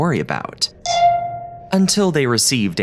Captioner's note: message dings